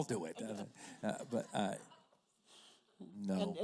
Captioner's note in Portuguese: risos da plateia